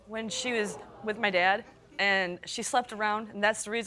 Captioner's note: crowd exclaiming